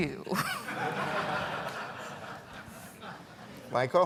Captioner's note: audience laughing